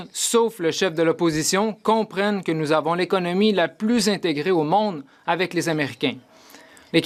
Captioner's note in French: voix de l'interprète